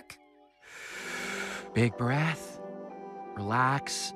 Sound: inhales

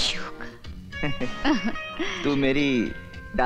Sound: laughs

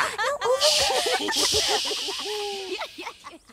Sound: laughs; shushing

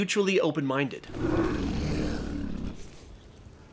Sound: growls

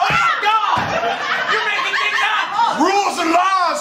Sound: laughter

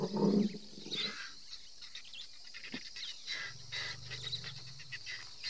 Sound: elephants growl softly

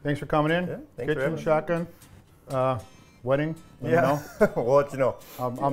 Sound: laughing

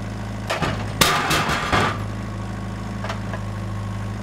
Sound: metal clacking

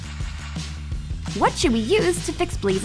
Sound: none

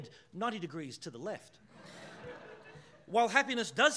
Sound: audience laughing

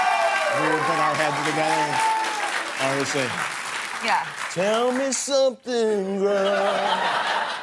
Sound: cheers and applause

